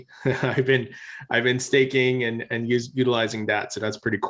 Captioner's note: chuckles